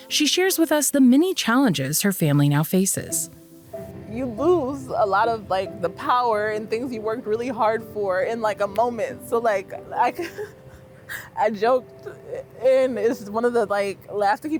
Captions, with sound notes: she shares with us the many challenges her family now faces. - You lose a lot of the power and things you've worked really hard for in a moment. So like, I (laughs) I joked, and it's just one of the,